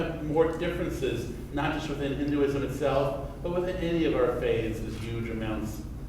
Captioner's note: none